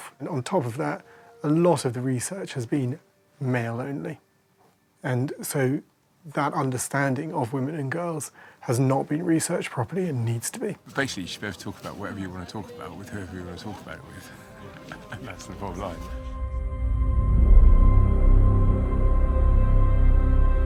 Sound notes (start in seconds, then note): 14.6 laughs; 17.7 dramatic music